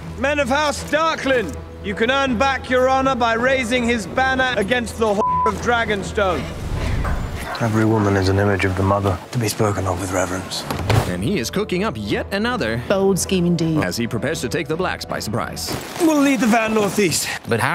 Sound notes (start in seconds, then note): none